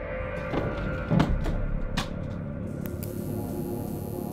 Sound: book thudding; electricity crackling

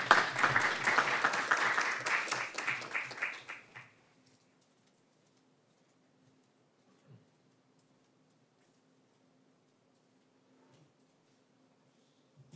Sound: applause

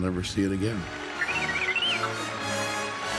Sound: beep Beep

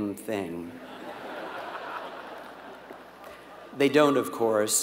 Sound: laugh

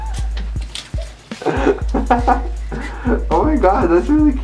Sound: laughter

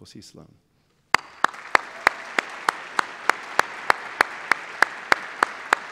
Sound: applause

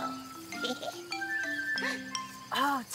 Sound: Tobee laughing

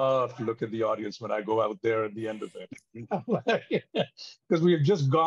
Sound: chuckles

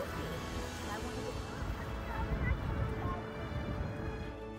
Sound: wind blows

